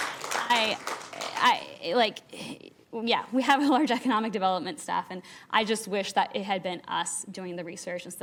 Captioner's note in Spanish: aplausos